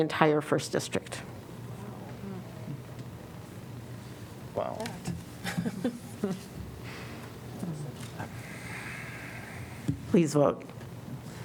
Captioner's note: laughter